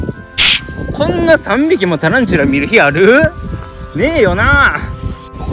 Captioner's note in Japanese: 鼻息